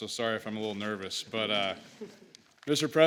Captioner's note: laughter